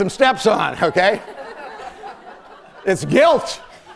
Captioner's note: laughter